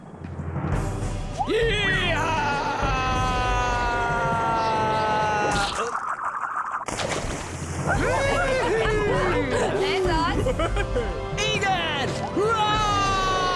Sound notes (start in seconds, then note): 7.9 all cheer